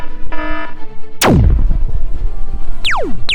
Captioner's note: zap